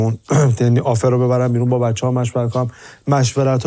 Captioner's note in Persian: گلویش را صاف می‌کند